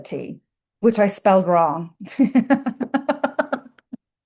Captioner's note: laughs